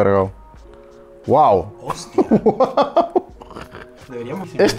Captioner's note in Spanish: risas